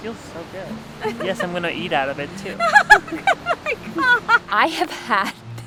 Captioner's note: laughs